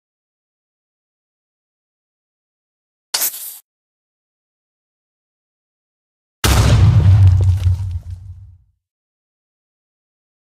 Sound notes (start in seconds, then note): 3.2 creeper sound; 6.4 explosion